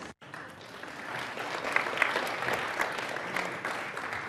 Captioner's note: audience applauds